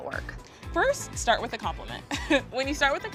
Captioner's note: chuckles